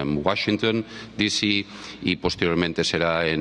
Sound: speaking spanish

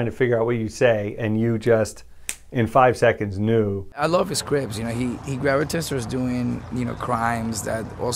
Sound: snaps

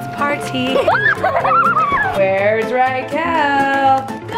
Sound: laughing

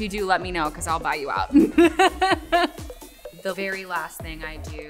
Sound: laughing

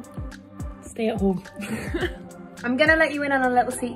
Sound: giggles

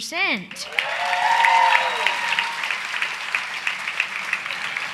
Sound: audience applause

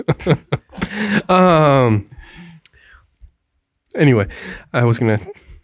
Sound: laughing

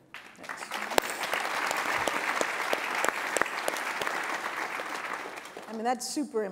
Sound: applause

